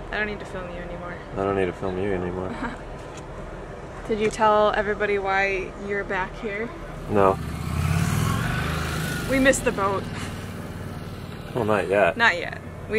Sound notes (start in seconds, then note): 3.0 laughs; 6.8 motorcycle passing; 10.0 laughs